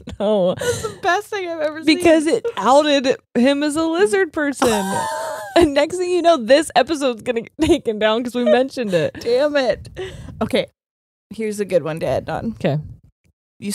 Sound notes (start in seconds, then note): 0.0 laughs; 4.6 laughs